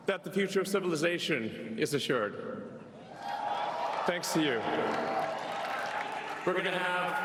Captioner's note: cheers and applause